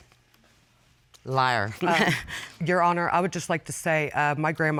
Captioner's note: chuckles